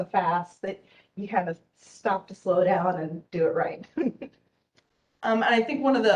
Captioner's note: laughs